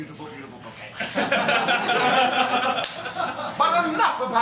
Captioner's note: laughter